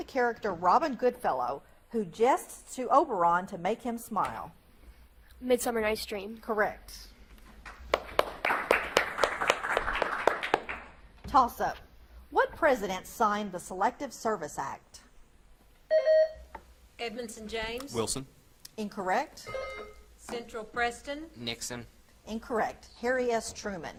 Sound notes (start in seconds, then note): 7.6 audience claps; 15.9 buzzer beeps; 19.4 buzzer beeps